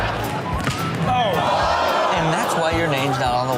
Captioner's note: audience groans